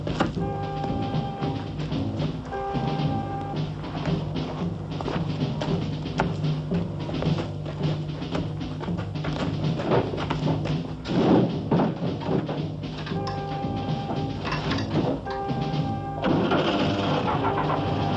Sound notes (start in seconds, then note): 14.2 engine ignites